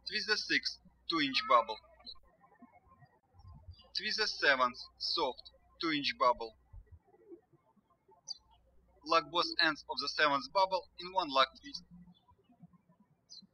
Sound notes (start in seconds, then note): 7.5 birds chirping; 13.2 birds chirping